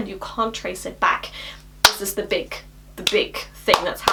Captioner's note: claps hands